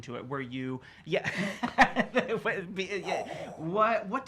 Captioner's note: laughter